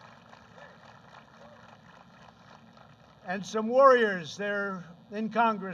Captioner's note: applause